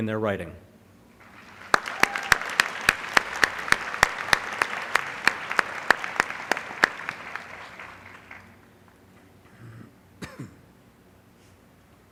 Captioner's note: applause